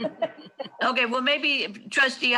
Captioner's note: laughs